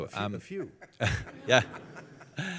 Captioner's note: laughter